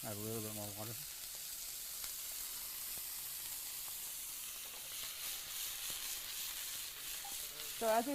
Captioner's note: sizzles loudly